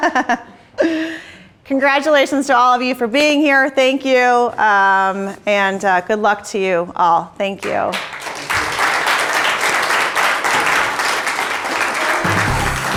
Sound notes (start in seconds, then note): 7.6 applause